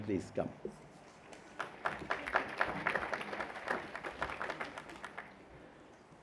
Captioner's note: applause